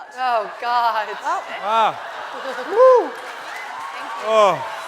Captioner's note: audience laughing and cheering